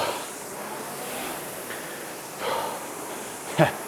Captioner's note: breathing heavily